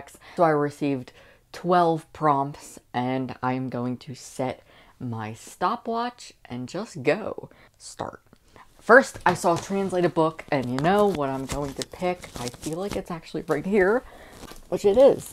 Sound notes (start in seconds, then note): none